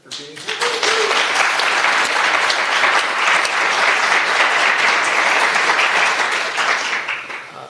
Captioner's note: applause